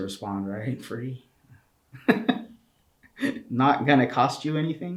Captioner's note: chuckles